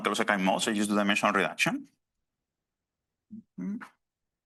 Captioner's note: hums